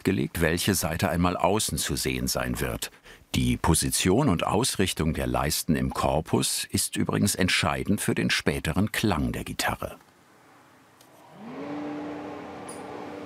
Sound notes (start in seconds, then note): 11.2 machine noise